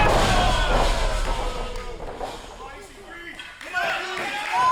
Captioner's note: crowd booing; cheering